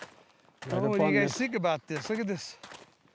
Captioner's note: footsteps